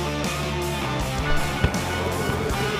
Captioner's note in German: Lockere Rockmusik; Stadionhupen